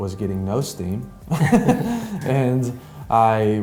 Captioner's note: laughs